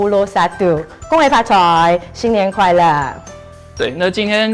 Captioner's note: Cantonese